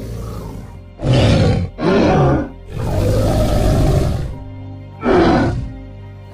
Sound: triceratops sounds

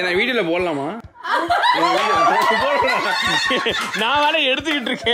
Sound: everyone laughs

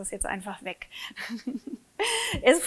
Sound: laughs

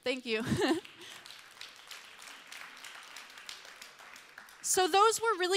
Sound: applause

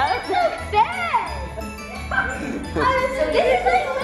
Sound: laughing

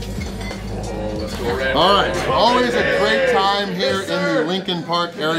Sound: crowd

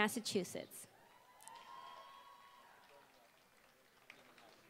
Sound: applause

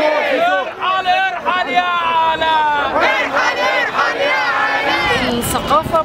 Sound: Chants: Leave, Leave Alaa

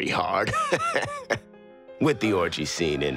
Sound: laughing

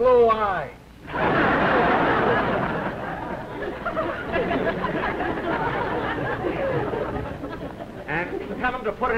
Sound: laughter

